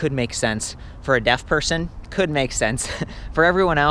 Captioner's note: chuckles